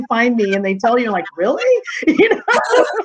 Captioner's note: chuckling